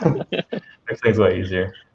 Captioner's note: laughing